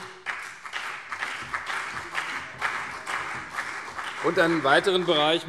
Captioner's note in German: Beifall CDU und BÜNDNIS 90/DIE GRÜNEN